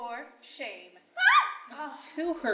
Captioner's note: Chloe screams